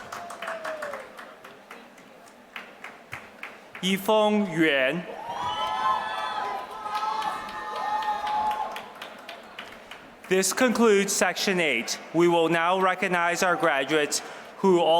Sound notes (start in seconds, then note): 5.5 applause